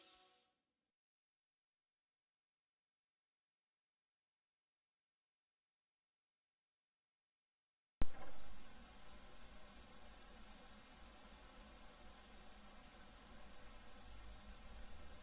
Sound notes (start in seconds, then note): 2.0 silence